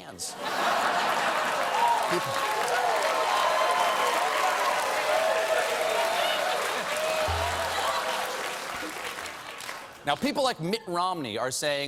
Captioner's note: applause